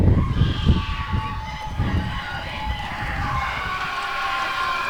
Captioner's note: applause and cheering